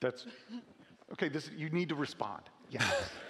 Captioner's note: laughing